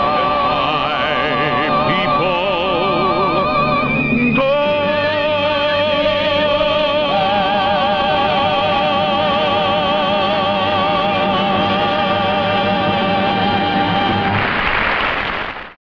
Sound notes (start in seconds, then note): 13.7 audience applauding